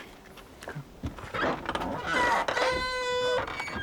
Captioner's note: door creaking